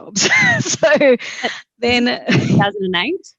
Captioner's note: laughs